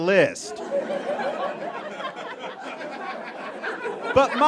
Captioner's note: audience laughs profusely